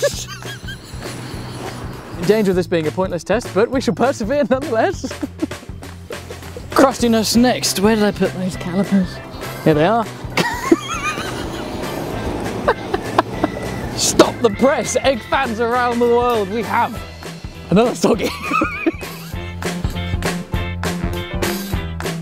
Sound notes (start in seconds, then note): 0.0 laughing; 5.8 chuckling; 10.3 laughing; 18.1 laughing; 19.4 upbeat music